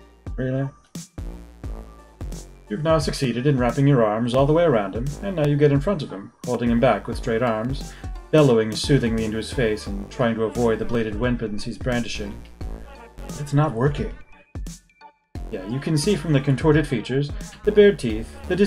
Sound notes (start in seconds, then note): none